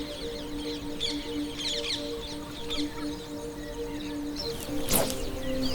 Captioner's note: fishing pole whips again